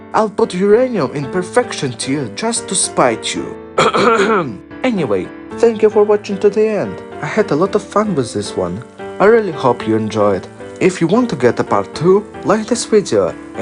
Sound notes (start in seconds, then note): 3.8 clears throat